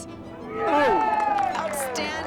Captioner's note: crowd cheers